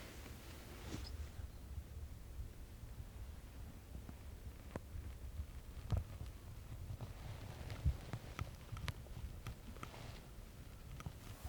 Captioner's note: deer footsteps approaching